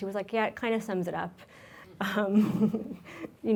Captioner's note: laughs